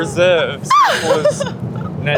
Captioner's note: screams